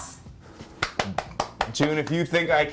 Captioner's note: clapping